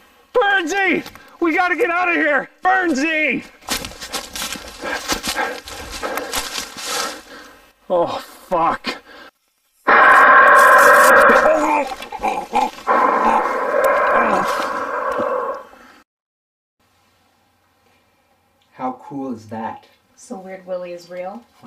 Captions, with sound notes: Burnzy, we got to get out of here. Burnzy! [Rustling sound] [Breathing heavily] Oh fuck. [A man growls] [Attacking sound] How cool is that? - So weird Willie is real?